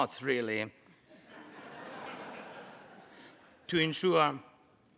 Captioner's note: Congress laughs